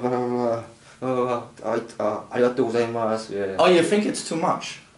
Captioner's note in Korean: 알수없는 일본어